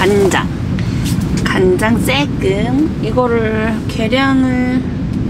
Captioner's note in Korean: 비행기소리